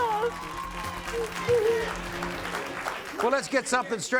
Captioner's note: audience applauds